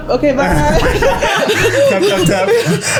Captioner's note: laughs